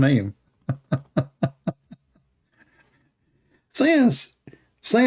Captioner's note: Ketawa